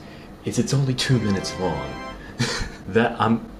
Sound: chuckles

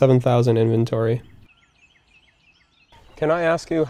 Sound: birds chirping

